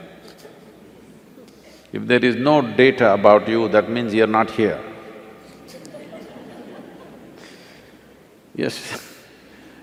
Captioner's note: laughs; laughter; laughs